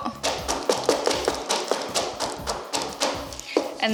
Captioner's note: pan tapping